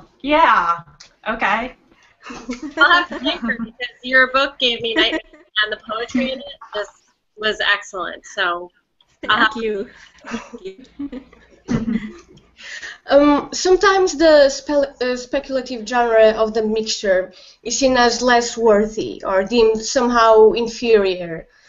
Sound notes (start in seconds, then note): 10.2 laughter